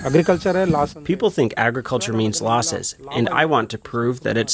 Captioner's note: through translator